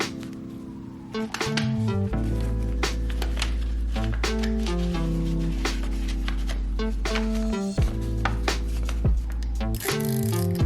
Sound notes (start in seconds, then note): 4.2 paper scratching; 8.3 bright electronic music; 10.4 plastic clicking